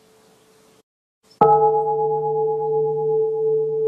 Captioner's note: bell